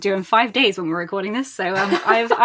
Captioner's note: laughs